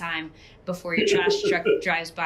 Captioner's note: laughs